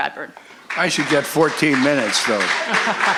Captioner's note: voiceover; laughter; applause